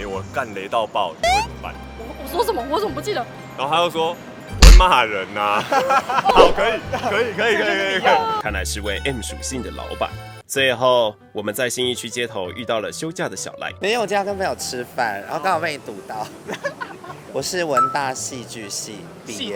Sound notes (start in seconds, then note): 16.4 laughs in infectious laughter